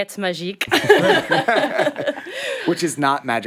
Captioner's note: all laugh